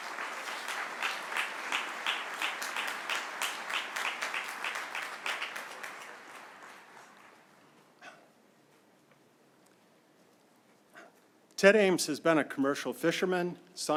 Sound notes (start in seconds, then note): 0.0 applause